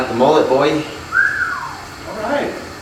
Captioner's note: whistles